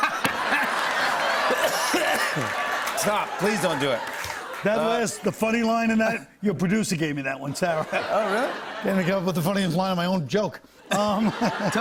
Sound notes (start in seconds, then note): 0.0 laughter; 1.4 coughing